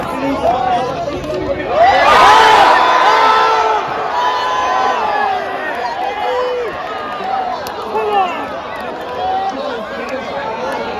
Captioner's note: Crowd goes crazy because of McLaren's Incident